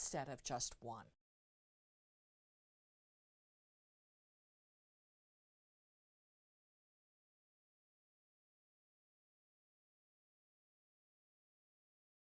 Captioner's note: no Sound Present